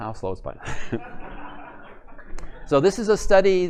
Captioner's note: laughter